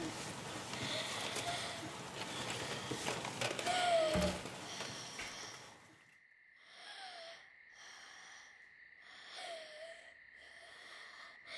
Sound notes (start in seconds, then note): 0.0 clattering; 3.5 Esi gasping for breath; 6.4 wheezing breath